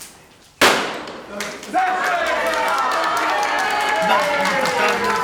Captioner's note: loud bang; everybody cheering and applauding